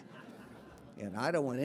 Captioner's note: audience laughing